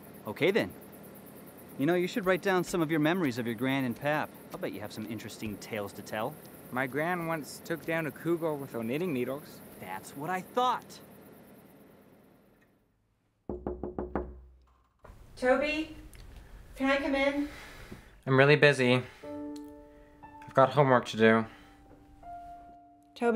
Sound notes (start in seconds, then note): 13.4 door knocking; 19.0 gentle music